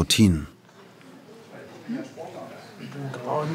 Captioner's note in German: Stimmengewirr